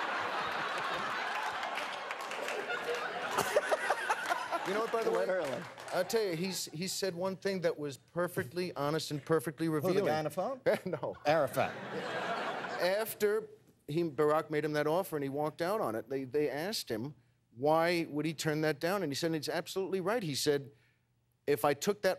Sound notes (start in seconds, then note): 0.0 laughter; 4.0 laughs